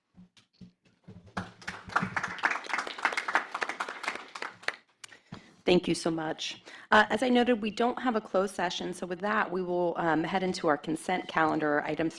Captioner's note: applause